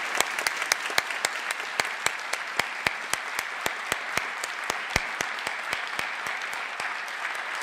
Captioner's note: applause